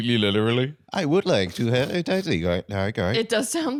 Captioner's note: robotically